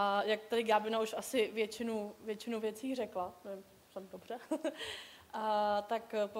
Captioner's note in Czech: smích